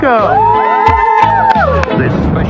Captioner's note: cheers